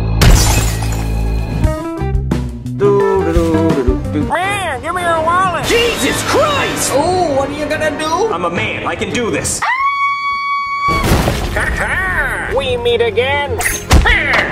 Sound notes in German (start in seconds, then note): 0.2 Glas zersplittert; 9.6 erschrockenes Schreien